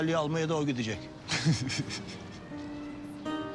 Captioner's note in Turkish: Gülme sesi